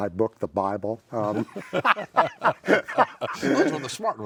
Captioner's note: laughter